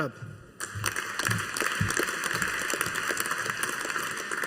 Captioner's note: audience applauding